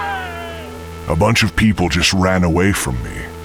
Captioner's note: screaming